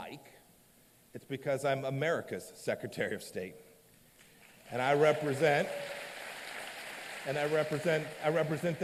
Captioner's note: applause